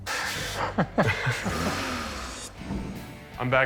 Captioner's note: both laugh